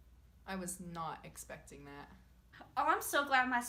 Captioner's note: none